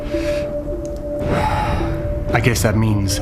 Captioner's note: sighing